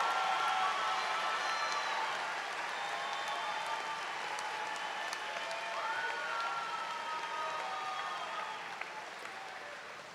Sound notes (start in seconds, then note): 3.1 cheers and applause